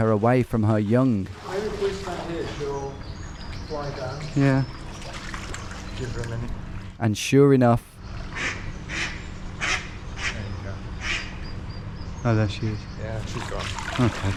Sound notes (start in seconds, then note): 9.6 duck quacking